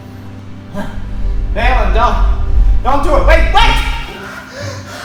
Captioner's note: grunts